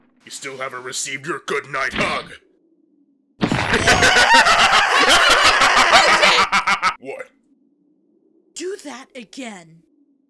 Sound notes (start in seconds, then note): 3.6 BOJACK laughs; 3.8 GOHAN screams